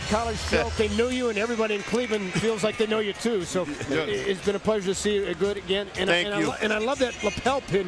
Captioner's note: loud crowd noise